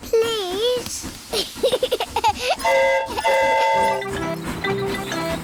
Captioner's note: giggles; train horn toots